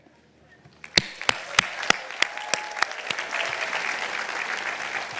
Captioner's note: audience applauding